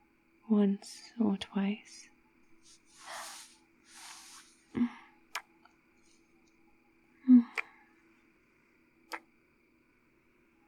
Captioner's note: gasp